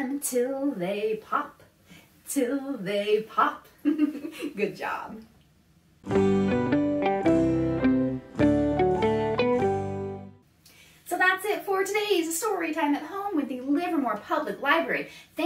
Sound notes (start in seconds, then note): 3.8 laughs; 6.0 transition music